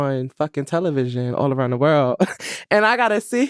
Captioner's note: laughs